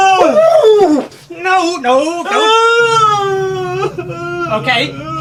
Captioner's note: monster yells; monster sobbing